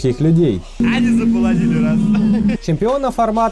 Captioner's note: with a pretend accent